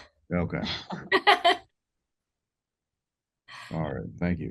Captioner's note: laughs